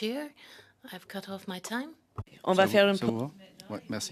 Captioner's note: speaking French